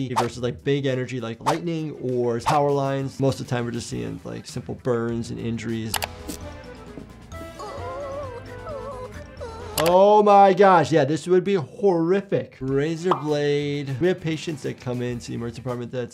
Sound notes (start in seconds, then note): 5.9 mouse clicking; 7.4 Sniffles wincing